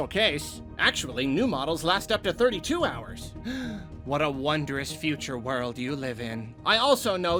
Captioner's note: gasp